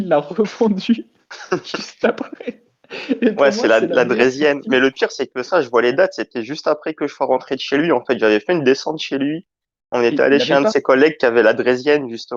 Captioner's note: laugh